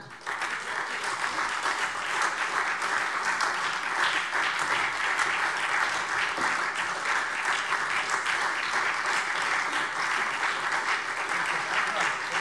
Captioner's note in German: Lebhafter Beifall SPD